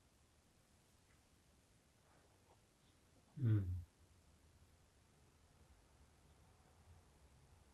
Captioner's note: pauses 11 seconds